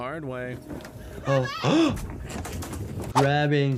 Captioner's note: doctor gasps